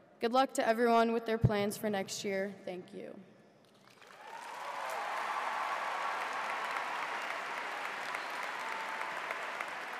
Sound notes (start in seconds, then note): 3.8 audience applauds; 3.9 cheers